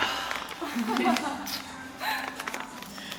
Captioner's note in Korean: 웃음